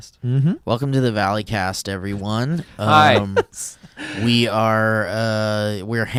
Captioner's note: laughs